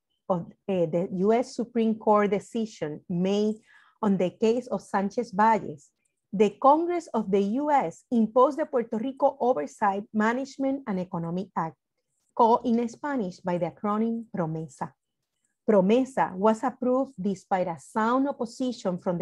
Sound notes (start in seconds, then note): 12.9 speaks in foreign language